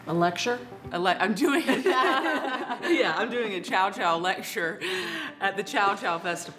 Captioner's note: laughs